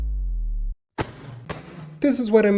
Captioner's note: face slapping sounds